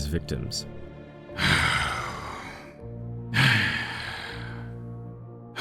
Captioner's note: sighs